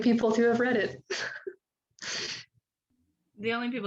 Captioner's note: laughing